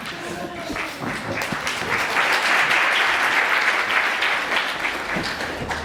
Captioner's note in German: Applaus